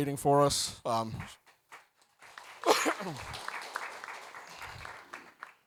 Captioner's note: audience applauds